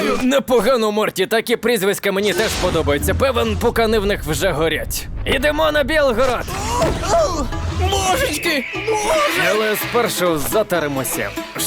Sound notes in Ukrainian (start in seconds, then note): 6.3 Звуки падіння